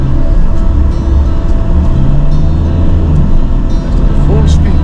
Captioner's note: car engine revving